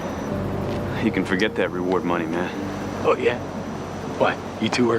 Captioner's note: engine running